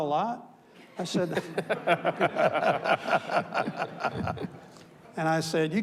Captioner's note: panelists laughs; audience laughs